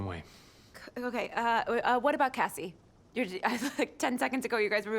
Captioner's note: chuckles